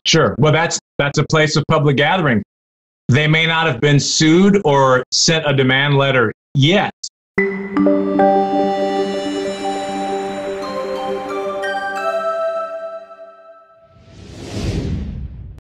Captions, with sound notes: Sure, well that's a place of public gathering. They may not have been sued, or sent a demand letter yet. (futuristic music) (air wooshing)